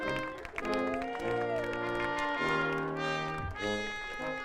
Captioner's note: audience cheering